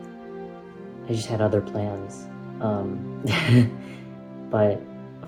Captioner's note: laughs